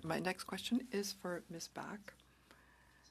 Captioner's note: speaking French